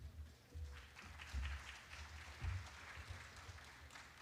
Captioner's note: applause